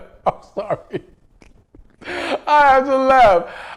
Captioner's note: laughs